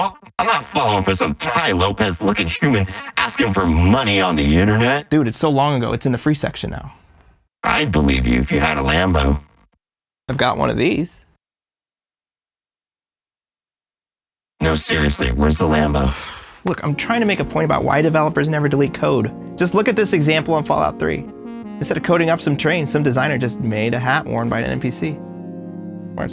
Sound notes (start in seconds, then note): 16.0 sighing